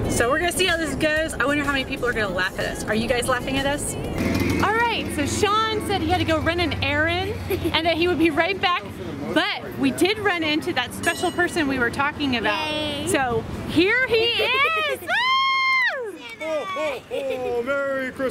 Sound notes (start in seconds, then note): 15.1 screaming